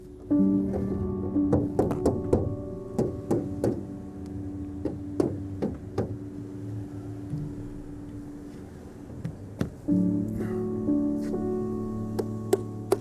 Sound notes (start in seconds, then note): 2.6 door knocking; 10.0 gentle music